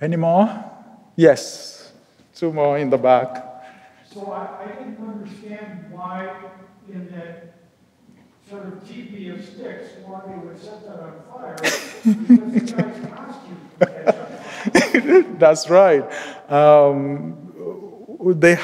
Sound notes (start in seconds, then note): 11.5 laughs